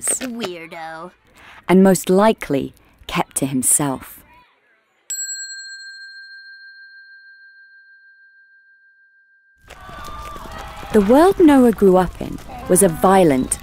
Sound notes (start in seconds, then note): 5.1 bell dinging